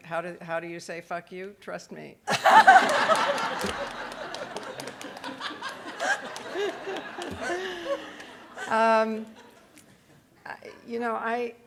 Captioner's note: audience laughing